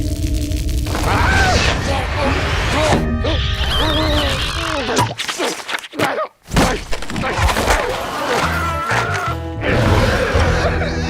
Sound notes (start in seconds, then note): 7.9 screaming